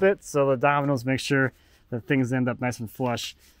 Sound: none

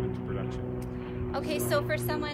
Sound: airplane

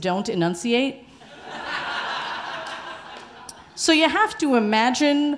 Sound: audience laughing

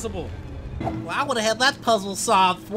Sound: mockingly

